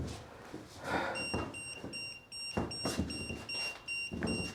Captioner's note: EMF meter beeping